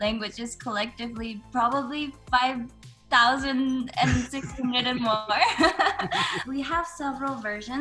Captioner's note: laugh